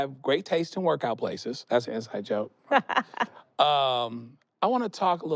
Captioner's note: laughs